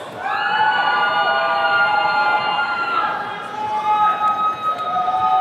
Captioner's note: attendees cheering